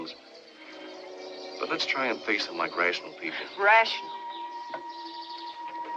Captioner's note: scoffs